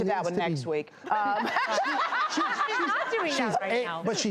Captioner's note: laughs